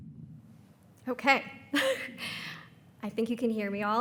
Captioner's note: laughs